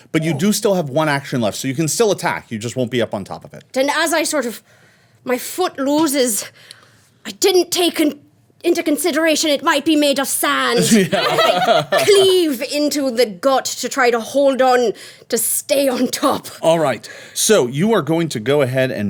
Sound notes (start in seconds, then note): 10.8 everyone laughing